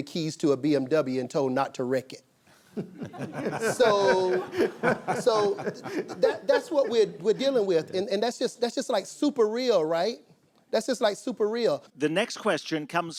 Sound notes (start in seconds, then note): 2.7 laughttr